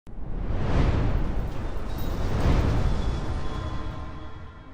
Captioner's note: whooshing Sound Effect